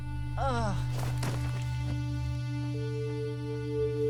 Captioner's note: thud; solemn music playing